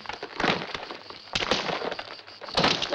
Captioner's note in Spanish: grita